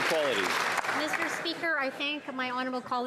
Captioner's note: some Applause